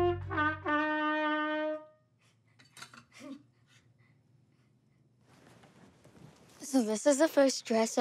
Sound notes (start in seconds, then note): 3.0 laughs